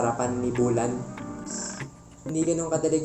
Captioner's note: scoffs